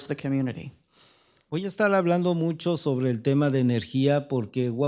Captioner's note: speaking spanish